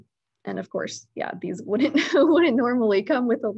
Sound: laughing

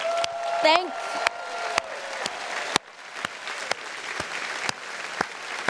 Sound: audience applauding

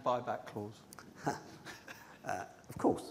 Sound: laughs

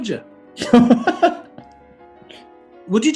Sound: laughing

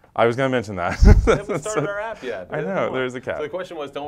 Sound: laugh

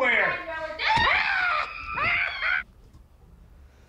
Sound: both scream

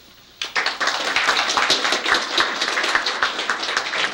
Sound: applause

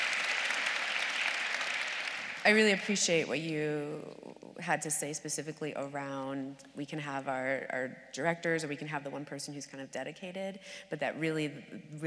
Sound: applause

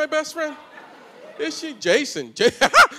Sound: laughs

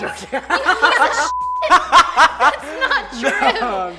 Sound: laughs loudly; beeping; laughing

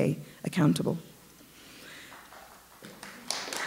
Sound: applause

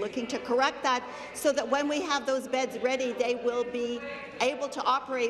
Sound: none

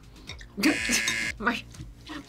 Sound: buzzer rings; laughs

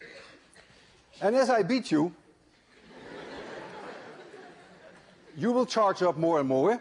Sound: laughter

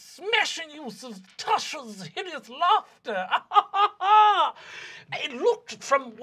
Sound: laughing

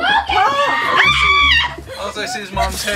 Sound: screams

